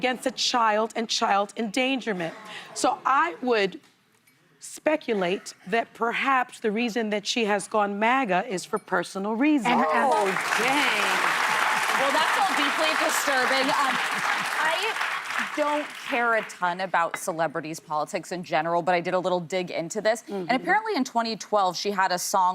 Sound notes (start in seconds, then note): 13.0 cheers and applause